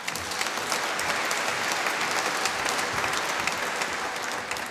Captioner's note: applause